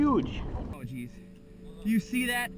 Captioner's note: water splashing